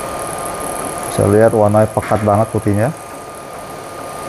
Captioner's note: printer machine noise